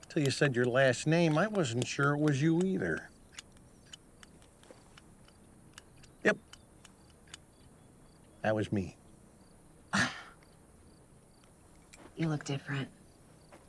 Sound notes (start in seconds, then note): 10.0 Clive scoffs